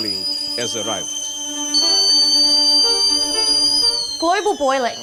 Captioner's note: kettle whistles loudly